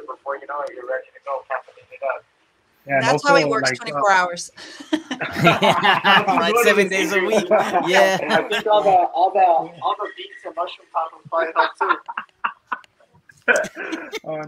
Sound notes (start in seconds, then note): 4.8 everyone laughing; 13.4 laughing